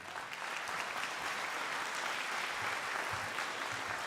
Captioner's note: crowd applauding